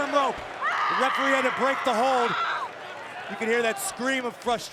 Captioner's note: Asuka screams